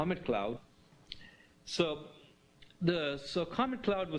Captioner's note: pause